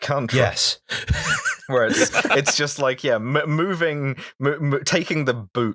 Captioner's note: laughter